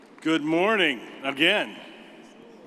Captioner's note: none